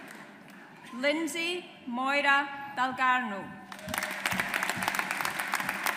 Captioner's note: audience applauds